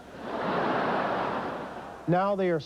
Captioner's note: laughter